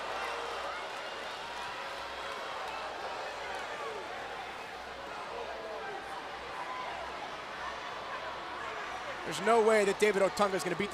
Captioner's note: crowd cheering